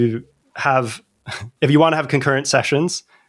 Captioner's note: laughter